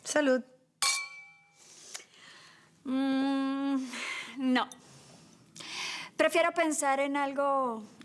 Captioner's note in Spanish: Sonido de las copas